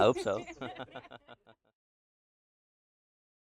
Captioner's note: laughter fades out